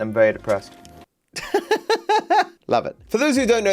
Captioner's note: laughs